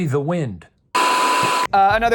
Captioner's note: screen buzzing